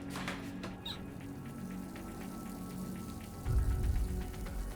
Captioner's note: water running